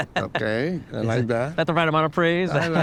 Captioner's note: chuckles